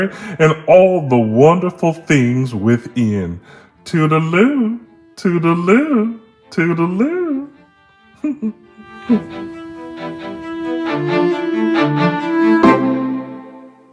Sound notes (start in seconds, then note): 8.2 chuckles; 9.2 upbeat outro music plays